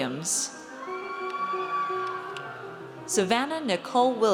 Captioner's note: audience cheers